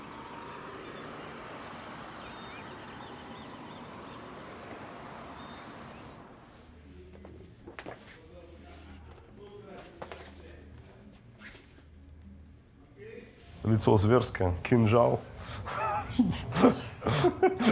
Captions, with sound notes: (crickets chirping) Mean face, a knife in hand...